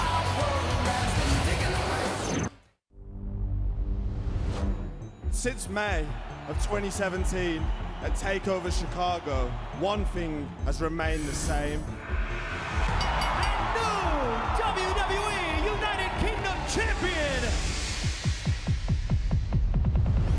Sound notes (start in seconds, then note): 12.8 bell ringing